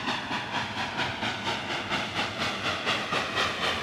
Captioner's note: train sounds